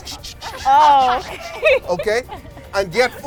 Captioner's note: laughter